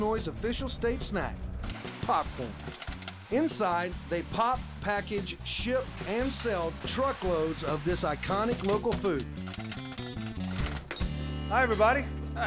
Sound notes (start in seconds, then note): 9.3 popping